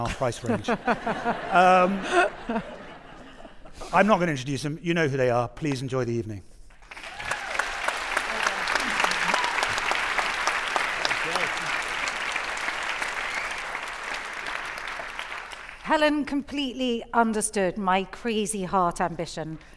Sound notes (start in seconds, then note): 0.1 audience laughing; 2.4 actors laughing; 6.9 audience cheering